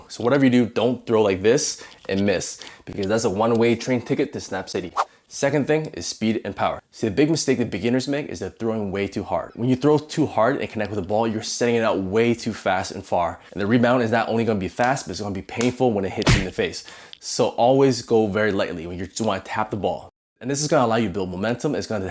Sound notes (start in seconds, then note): 4.9 air whooshing; 16.2 wind snapping